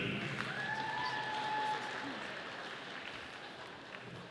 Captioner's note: audience applauding